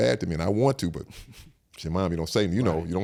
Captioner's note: Eric exhales